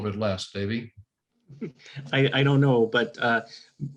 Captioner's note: laughter